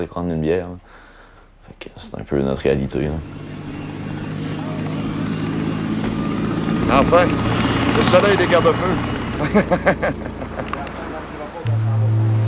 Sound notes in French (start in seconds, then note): 8.8 rire